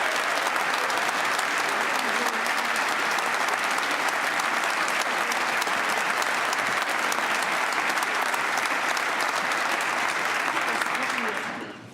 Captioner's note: applause